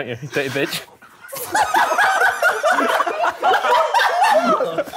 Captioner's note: group laughing